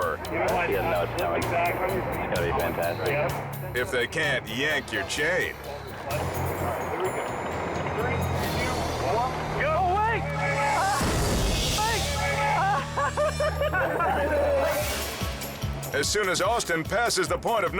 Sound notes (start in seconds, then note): 11.6 friends chattering